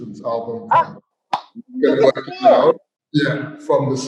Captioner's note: excitedly claps